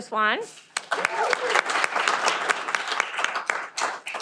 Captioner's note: cheering